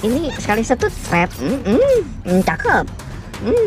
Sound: creeet

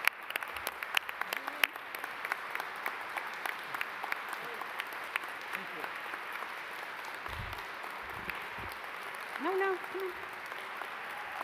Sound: applause

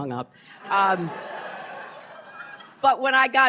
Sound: laughter

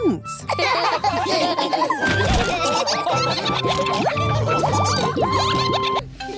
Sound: all laughing

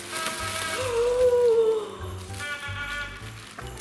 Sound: gasping

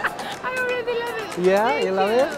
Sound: laughs

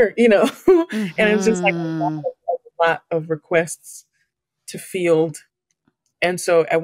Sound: laughs

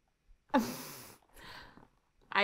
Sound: snickers

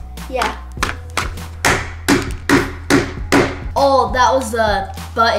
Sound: hammering

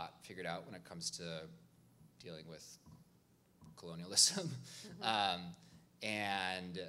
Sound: chuckles

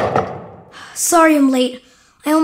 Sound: door slams shut; exhales sharply

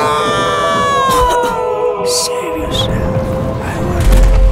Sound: coughs

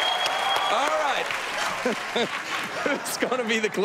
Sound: laughs

